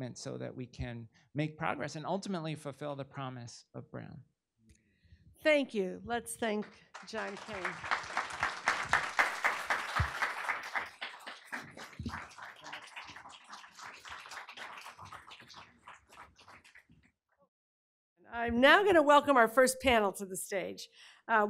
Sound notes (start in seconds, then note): 7.6 audience applauding